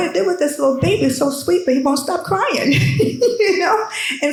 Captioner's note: laughs